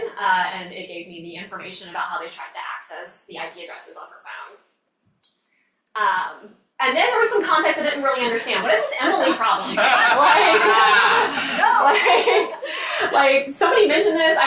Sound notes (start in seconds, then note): 10.8 crowd members laughing